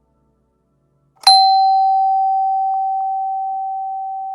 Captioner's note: slow, ominous doorbell